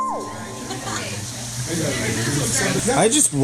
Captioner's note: background chatter